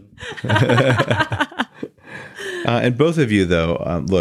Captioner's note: laughing